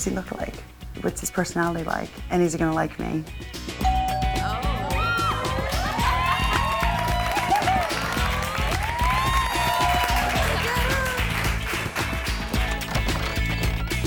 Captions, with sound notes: What does he look like? What's his personality like and is he going to like me? (doorbell ringing) (women cheering and applauding)